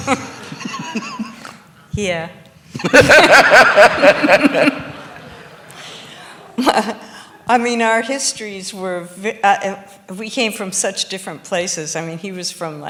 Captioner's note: laughs